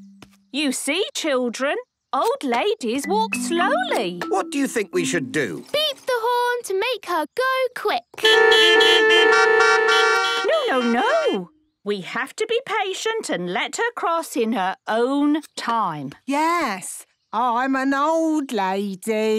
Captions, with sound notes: - You see, children, old ladies walk slowly. - What do you think we should do? - Beep the horn to make her go quick. (beeping) - No, no, no. We have to be patient, and let her cross in her own time. - Yes. I'm an old lady.